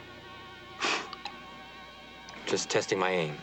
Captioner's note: whooshing